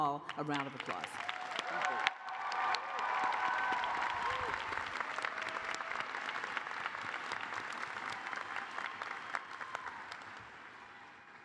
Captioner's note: cheers and applause